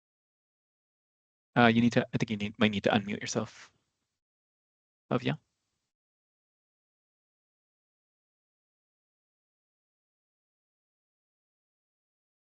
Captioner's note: pause